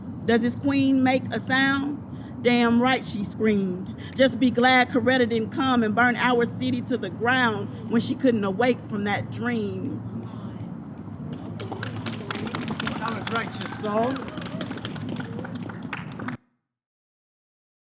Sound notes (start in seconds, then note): 11.4 audience cheers and applauds